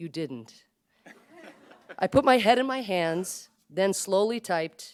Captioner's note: laughter